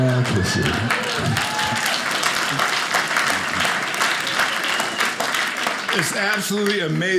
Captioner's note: audience applauding